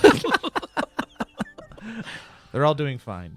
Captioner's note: all laughing